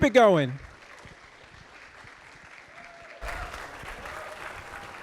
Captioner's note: audience applauding